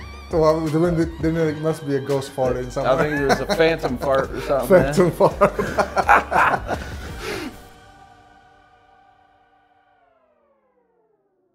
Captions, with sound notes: - Well, then it must be a ghost farted somewhere. - I think it was a phantom fart or something, man. - Phantom fart. (both laughing)